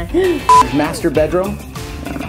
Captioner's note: beep